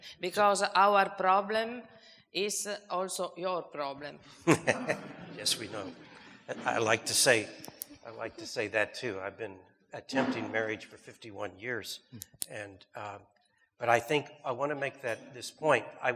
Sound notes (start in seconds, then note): 4.4 audience chuckles; 4.4 chuckles